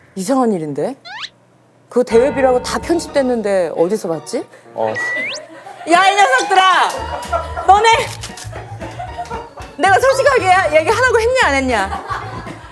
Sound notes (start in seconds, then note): 4.9 sip